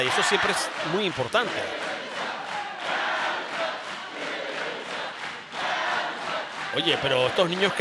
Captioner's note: applause